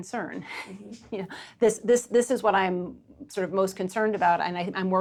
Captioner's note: chuckles